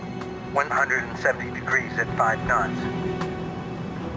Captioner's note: man Over Radio